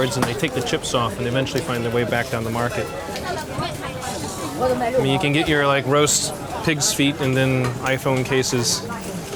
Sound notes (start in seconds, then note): 3.3 people chattering